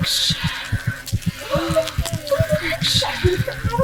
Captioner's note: C: sensual breathing